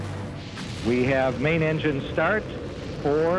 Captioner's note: ground control over the radio